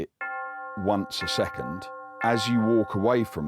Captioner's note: bell tolling